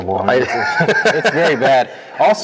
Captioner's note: laughter